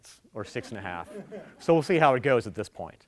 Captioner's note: audience laughing